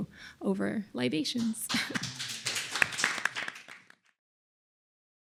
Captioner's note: applause